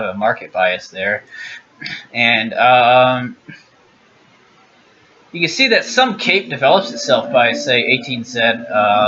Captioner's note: clears throat; clears throat again